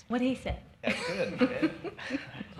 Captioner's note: laughs